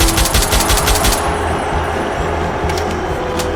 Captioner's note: Machine gun fire. Explosions. Gruber dying. Audience cheering